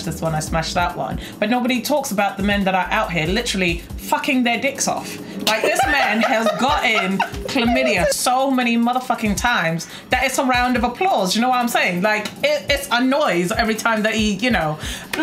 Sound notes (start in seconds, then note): 5.5 laughs